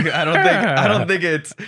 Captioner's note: both laugh